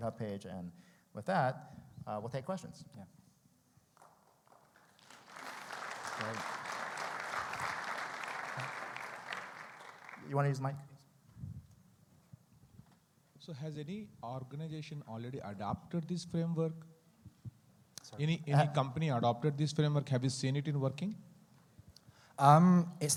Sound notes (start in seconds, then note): 4.0 audience clapping